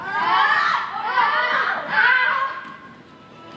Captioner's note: suitors yelling